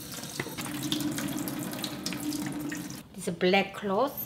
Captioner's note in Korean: 물 떨어지는 소리